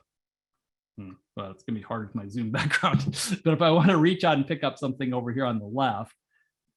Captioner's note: laugh